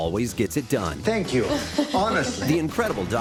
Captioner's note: laughs